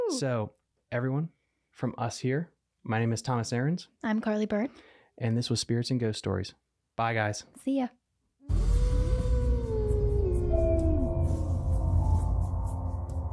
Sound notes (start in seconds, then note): 8.5 creepy howling; 10.6 eerie music